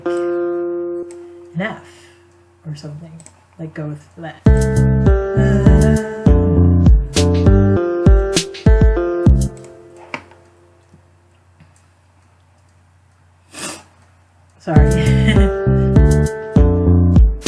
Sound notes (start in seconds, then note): 13.4 sniff; 14.8 laughs